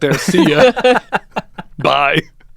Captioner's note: laughing